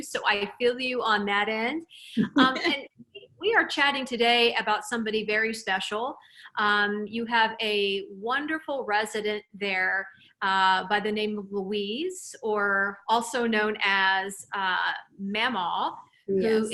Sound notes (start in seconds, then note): 2.2 laughs